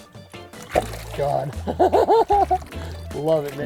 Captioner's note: fish splashing; laughs